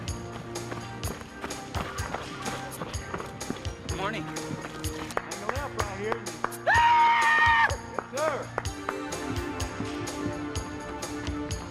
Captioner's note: sound of feet on trail; sound of feet on trail